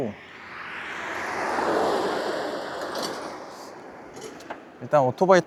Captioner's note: whoosh